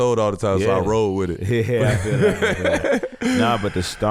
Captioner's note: laughing